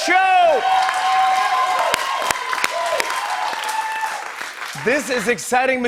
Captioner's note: cheers and applause